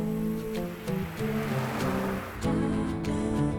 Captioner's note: car rumbling